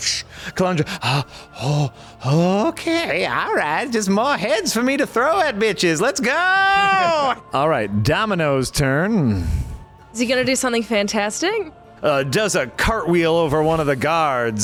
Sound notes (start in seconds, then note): 1.1 grunting